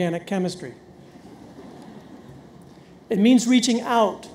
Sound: audience laughs

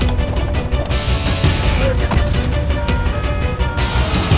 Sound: ambulance sirens wailing; vehicle door closing

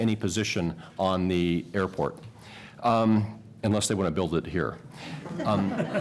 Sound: laughter

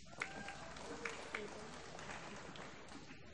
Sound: applause

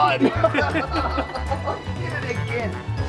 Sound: everyone laughs

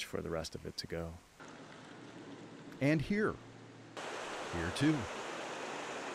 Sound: water runs over a collapsed road

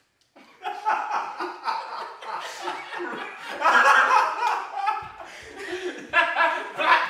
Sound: group laughter

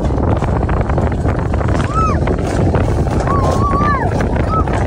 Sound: wind blowing past

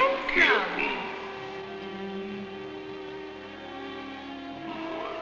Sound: speaking in a foreign language

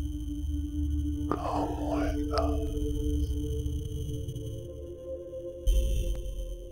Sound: whispering

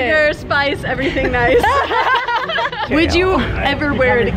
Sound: laughing

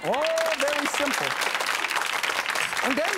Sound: audience applauding

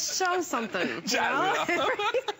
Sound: laughter

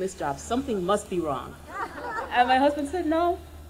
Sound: audience laughing

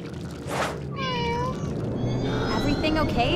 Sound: meowing

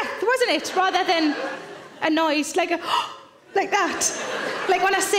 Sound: gasps

